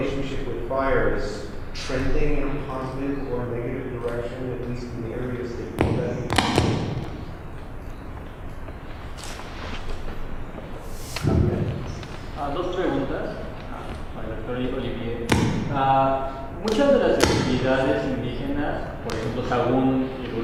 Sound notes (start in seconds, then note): 13.1 non-english speech